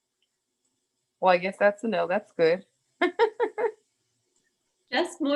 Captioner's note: laughs